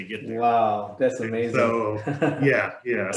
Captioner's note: laughs